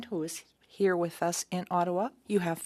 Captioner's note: speaking French